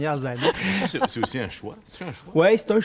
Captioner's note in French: rires